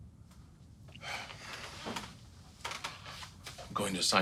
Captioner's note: sighs